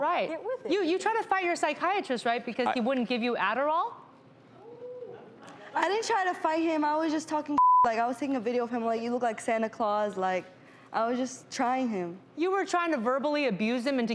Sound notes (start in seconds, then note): 4.3 crowd murmurs; 7.5 beep